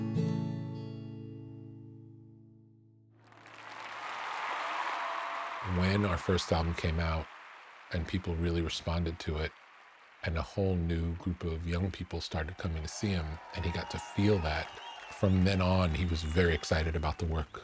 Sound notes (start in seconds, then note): 4.0 applause